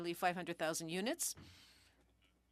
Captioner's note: speaking French